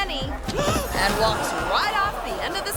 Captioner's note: model gasps